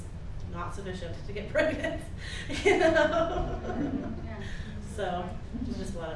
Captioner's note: laughs